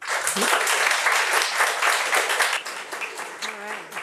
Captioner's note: audience applauds